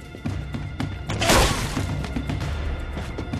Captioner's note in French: Bruit de tir